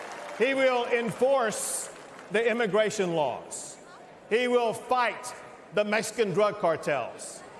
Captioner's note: cheers and applause